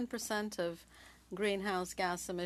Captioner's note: speaking French